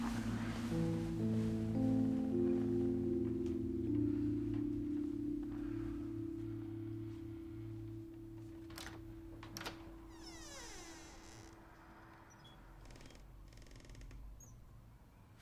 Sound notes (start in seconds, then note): 1.2 gentle music; 10.1 door latch clicks and squeaks